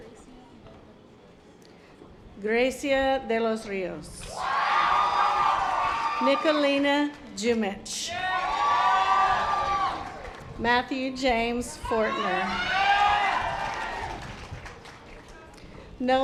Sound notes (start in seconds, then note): 8.1 audience applause; 12.5 audience applause